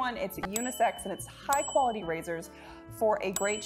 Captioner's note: bell dinging